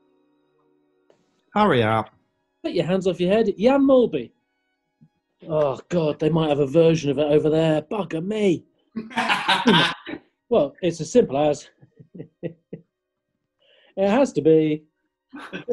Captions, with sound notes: Hurry up. Get your hands off your head. Jan Mølby. Oh, God, they might have a version of it over there. Bugger me! [LAUGHS] Well, it's as simple as... [CHUCKLING] It has to be...